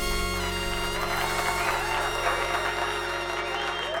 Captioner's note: crowd clapping